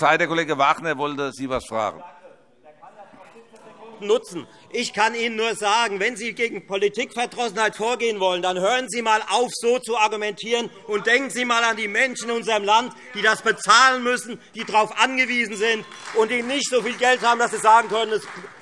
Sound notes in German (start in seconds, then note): 14.5 Beifall Freie Demokraten